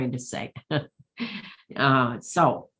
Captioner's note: laughs